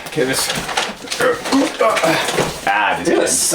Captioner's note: grunts